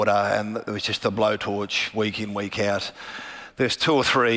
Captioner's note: none